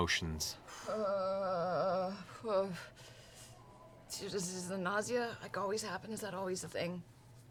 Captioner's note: groan